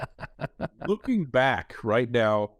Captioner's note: chuckles